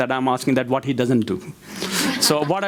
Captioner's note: crowd laughs